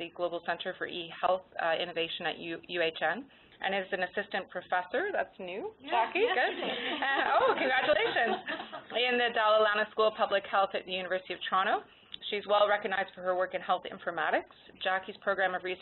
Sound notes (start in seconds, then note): 6.1 laughter